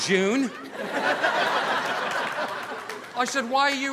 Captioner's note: audience laughing